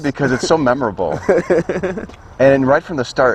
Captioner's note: laughs